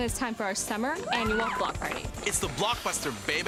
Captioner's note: hoots, clapping